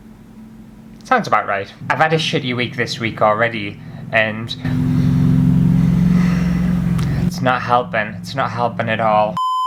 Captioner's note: loud Lawnmower